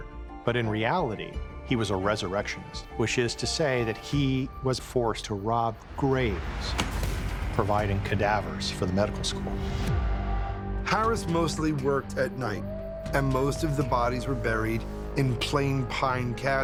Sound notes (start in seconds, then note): 6.6 spade slams